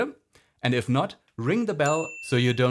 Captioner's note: bell dings